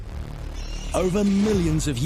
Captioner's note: bats screech